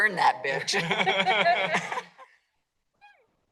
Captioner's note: laughter